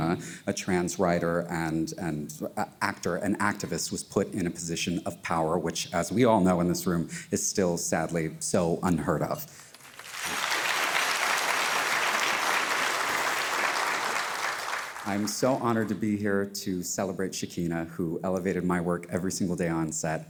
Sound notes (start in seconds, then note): 9.6 audience applauding